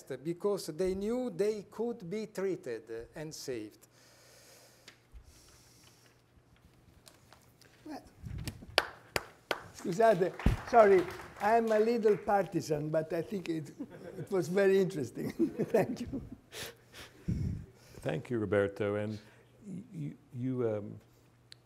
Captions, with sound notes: because they knew they could be treated and saved. (audience applauding) Sorry, I'm a little partisan, but I think it was very interesting. (group laughing) Thank you. - Thank you, Roberto. And you,